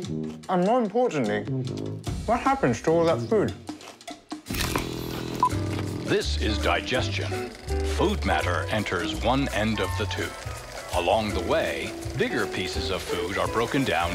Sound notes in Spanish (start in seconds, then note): 4.8 sonido de carrete de película